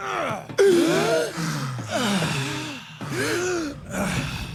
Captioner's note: gasps